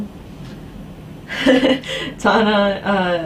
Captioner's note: laughing